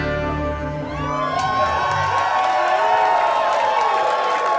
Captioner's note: audience cheers